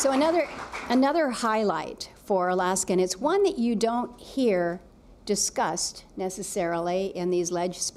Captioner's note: applause